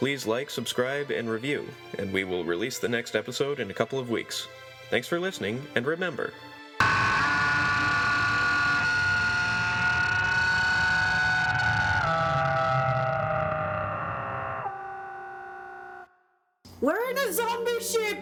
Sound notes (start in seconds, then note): 9.7 zombie scream